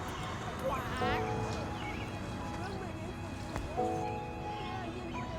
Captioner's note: child speaking faintly